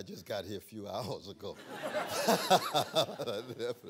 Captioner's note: laughter